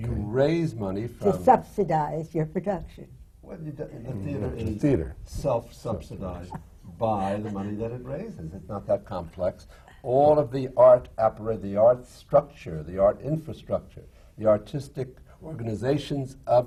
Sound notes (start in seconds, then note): 7.2 laughs